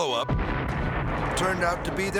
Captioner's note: explosives booming